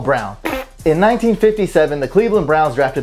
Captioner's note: fart noise